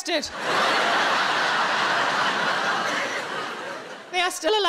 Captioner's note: audience laughing